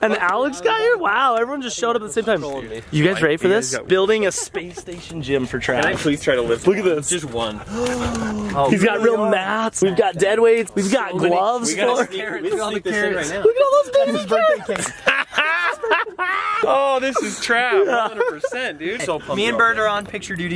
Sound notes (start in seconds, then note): 7.6 gasping; 15.0 laughing